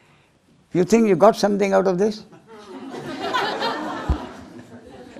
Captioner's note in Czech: smích